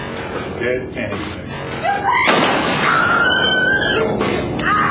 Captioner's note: scream; gunshot